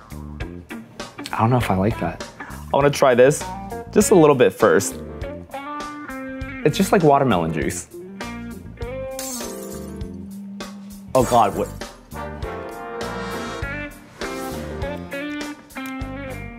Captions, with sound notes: I don't know if I like that. I wanna try this. Just a little bit first. It's just like watermelon juice. (glass shattering) Oh, God, what--